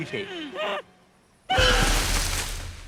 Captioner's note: muffled shouting